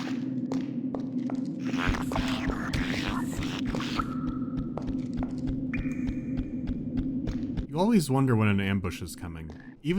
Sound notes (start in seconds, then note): 1.8 weird, lisping murmur and hasty footsteps